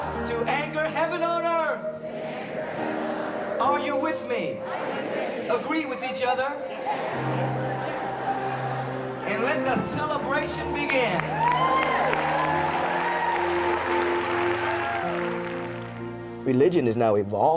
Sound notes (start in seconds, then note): 9.8 crowd repeat; 13.8 crowd; 15.8 crowd agreeing; 16.6 crowd cheering